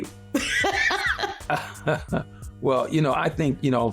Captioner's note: laughter